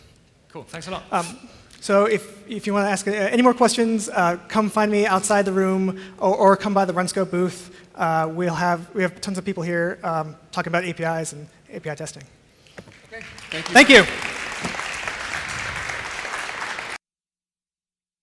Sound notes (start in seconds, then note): 14.4 applause